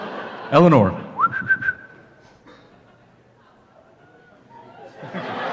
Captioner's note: whistles